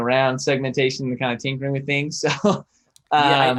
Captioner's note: chuckles